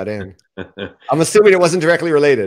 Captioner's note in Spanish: se ríe